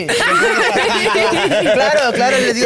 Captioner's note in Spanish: Risas